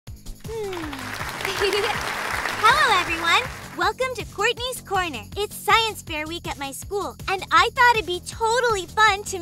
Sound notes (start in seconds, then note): 0.4 crowd clapping